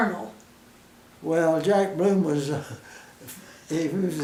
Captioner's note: chuckle